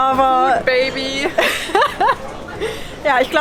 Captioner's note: laughting